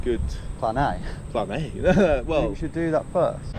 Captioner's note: chuckles